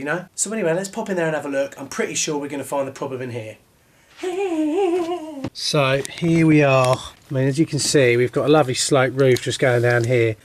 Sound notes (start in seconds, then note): 4.2 hums